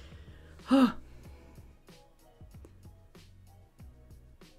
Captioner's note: sighing